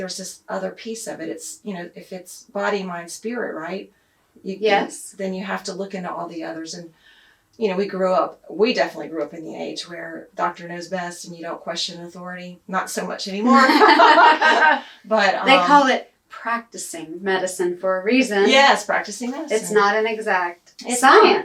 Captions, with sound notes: this other piece of it. It's . . . you know, if it's body/mind/spirit, right? Yes. Then you have to look into all the others. You know we grew up . . . we definitely grew up in the age where doctor knows best and you don't question authority. Not so much anymore. (laughs) They call it "Practicing" medicine for a reason. Yes, practicing medicine. It's not an exact science.